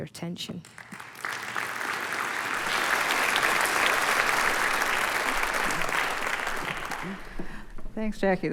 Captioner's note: applause